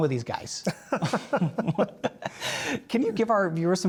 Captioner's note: laugh